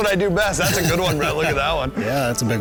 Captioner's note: laughter